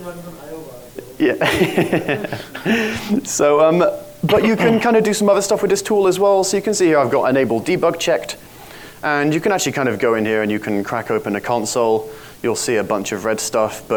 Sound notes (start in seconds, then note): 1.1 laughs